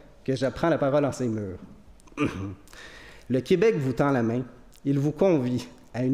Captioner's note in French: raclement de gorge